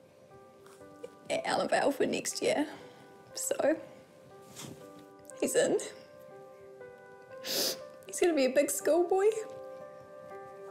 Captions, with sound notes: (TEARFULLY) at Allenvale for next year. So... he's in. (SNIFFLES) He's gonna be a big schoolboy.